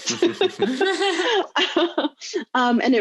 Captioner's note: laughing loudly